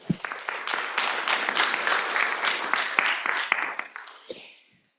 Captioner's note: applause